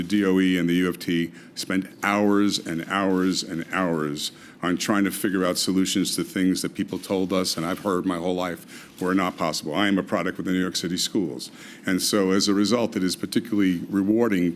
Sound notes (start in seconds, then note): none